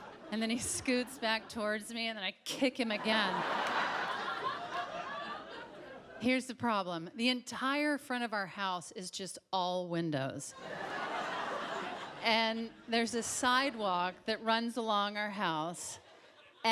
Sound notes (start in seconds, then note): 2.8 audience laughs; 10.6 audience laughs